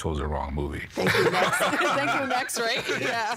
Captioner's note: all laughing